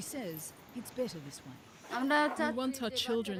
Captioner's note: non-english speech